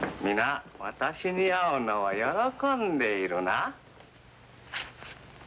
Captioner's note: speaking foreign language